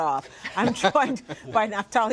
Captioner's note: laughter